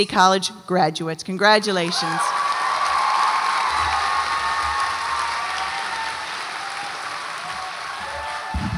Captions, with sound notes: Long Beach City College graduates, congratulations. (audience applauds and cheers)